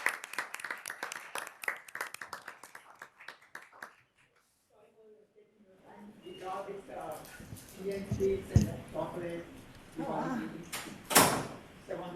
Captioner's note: applause